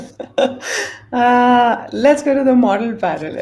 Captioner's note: chuckles